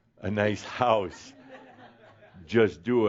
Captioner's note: a few chuckles